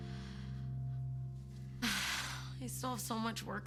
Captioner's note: Cassie sighs